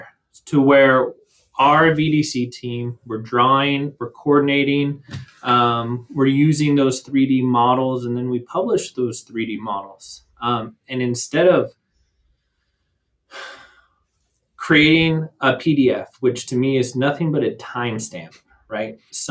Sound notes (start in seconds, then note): 13.3 sighs